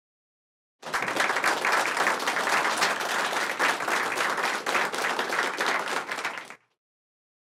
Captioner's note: applause